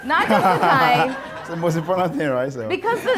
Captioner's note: audience laughing